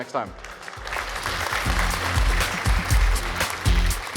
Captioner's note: applause